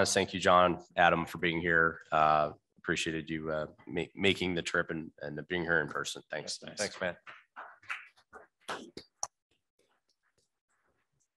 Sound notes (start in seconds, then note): 7.8 audience clapping